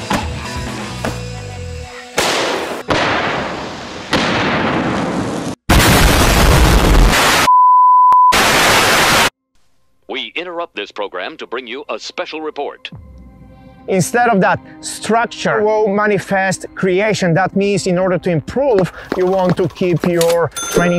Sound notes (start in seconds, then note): 0.2 pumpkins exploding; 5.8 bomb exploding